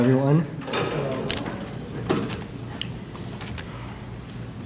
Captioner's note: crowd greets